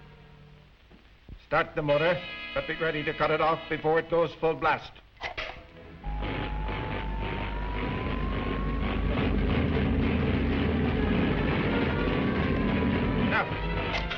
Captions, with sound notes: - Start the motor, but be ready to cut it off before it goes full blast. (motor rumbling) - Now!